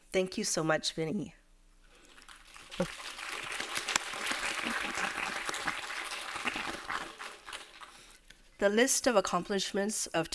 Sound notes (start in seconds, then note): 2.2 audience applauding